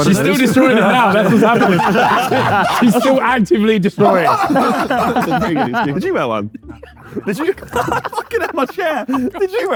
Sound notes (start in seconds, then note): 0.0 group laughing; 3.9 group laughs